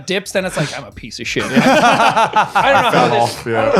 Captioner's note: laughing